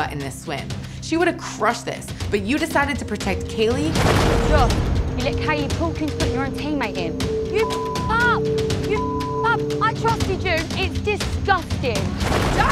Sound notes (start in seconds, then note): 6.2 beep